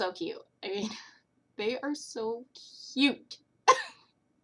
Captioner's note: laughter